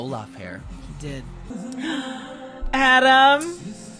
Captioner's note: gasp